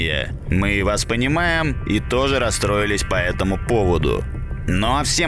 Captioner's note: sarcasm; sarcasm